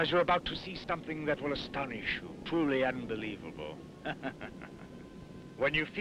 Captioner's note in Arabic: يضحك